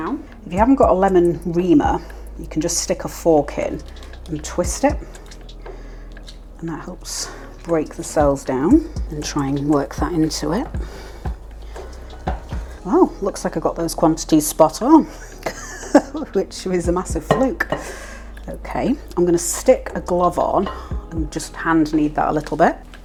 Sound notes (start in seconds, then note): 18.1 laugh